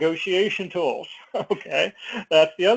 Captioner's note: laugh